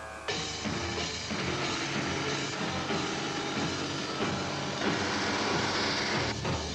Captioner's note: dramatic music; tank engines rumbling